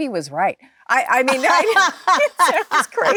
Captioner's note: Jennifer laughing